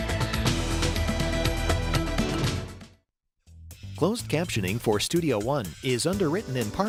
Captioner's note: voiceover